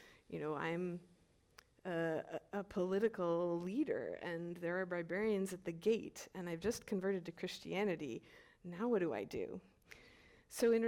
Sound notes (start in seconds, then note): none